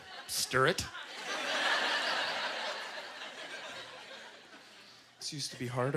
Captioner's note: audience laughter